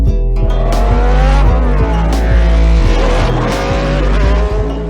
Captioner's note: Roar of Coloni-Subaru F1